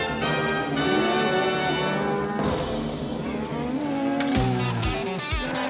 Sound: mooing

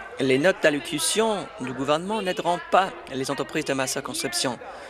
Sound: applause

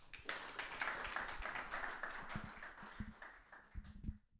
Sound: audience applause

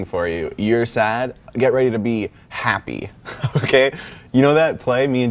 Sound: laughs

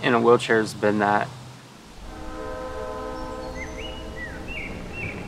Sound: train whistle blowing; birds chirping

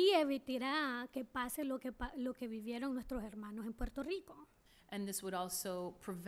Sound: speaking spanish

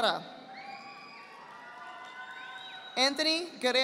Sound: audience applauding

